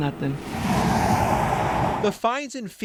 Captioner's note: cars whooshing